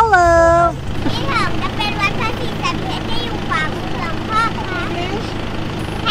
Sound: foreign language

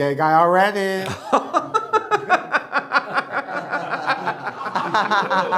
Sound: forced laughter; even worse forced laughter

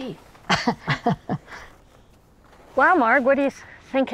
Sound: both chuckle

